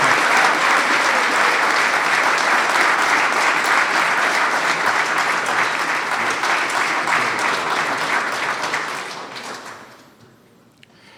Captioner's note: applause